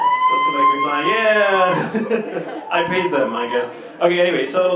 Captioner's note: cheers; laughs